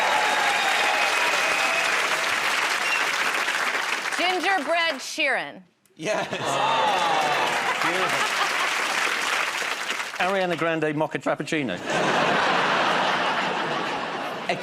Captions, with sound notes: [ Cheers and applause ] -Gingerbread Sheeran. -Yes. -Oh! [ Laughter ] -Good one. [ Applause ] -Ariana Grande mocha frappuccino. [ Laughter ]